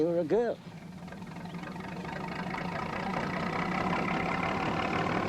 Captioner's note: train rumbling